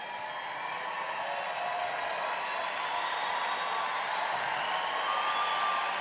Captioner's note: audience applauding and cheering